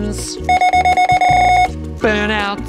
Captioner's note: scanner beeping repeatedly